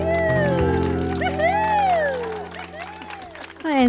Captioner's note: audience clapping and cheering